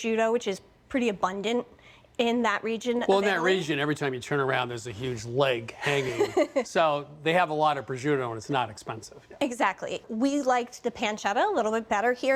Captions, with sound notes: which is pretty abundant in that region... - Well, in that region, every time you turn around, there's a huge leg hanging. - (laughs) - So they have a lot of prosciutto and it's not expensive. - Exactly. We liked the pancetta a little bit better here.